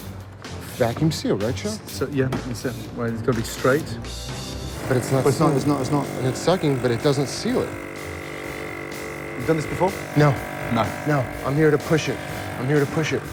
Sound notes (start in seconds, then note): 7.5 buzzing